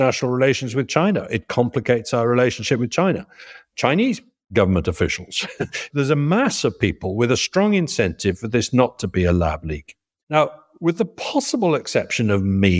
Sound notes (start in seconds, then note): 5.3 laugh